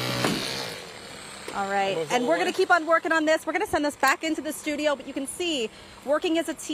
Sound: engine noise

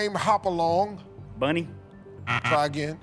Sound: buzzer

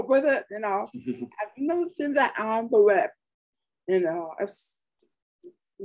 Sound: chuckles

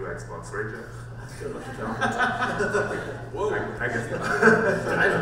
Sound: panel laughs

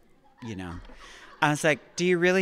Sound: audience laughing

